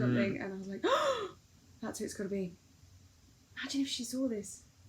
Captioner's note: gasp